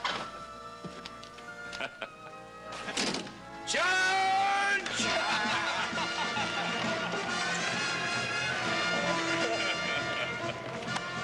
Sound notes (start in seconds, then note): 1.7 chuckles